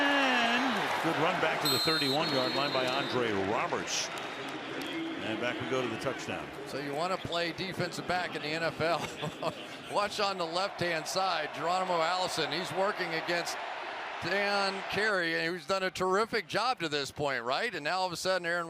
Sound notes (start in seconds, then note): 9.0 chuckles